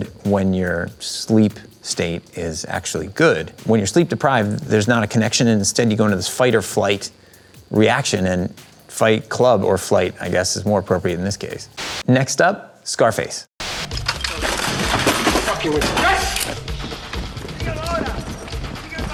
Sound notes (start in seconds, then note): 14.1 multiple things clattering; 16.6 feet pattering